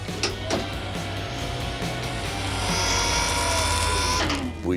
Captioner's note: mechanical whirring